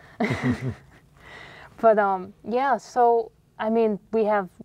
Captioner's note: laugh